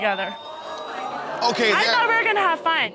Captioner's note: audience exclaiming